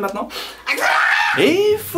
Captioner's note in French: cri aigu